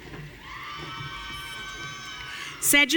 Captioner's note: audience cheering